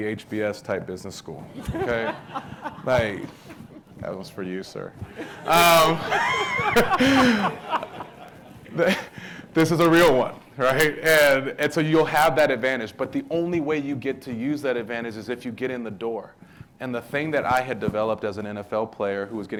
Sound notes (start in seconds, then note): 1.6 audience laughing; 5.1 audience laughing